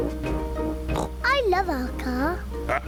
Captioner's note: laughs; oinks